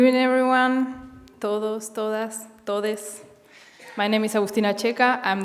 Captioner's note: speaking Spanish